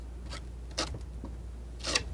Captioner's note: scratching